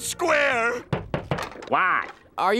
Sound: knocking

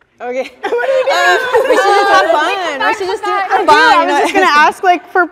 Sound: everyone talking

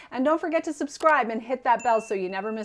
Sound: bell ringing

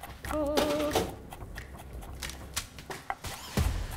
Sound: trills

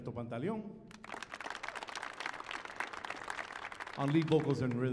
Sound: audience applauding

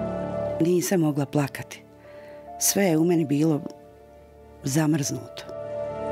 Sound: woman speaking in foreign language

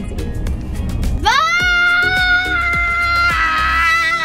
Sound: screams

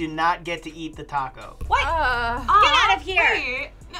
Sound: groaning

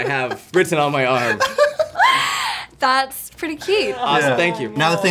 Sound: laughter

